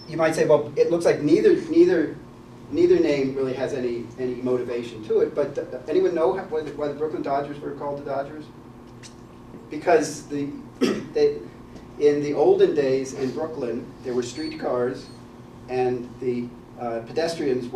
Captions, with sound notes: You might say well, it looks like neither name really has any motivation to it, but anyone know why the Brooklyn Dodgers were called the Dodgers? Because [COUGH] in the older days in Brooklyn, there were street cars and the pedestrians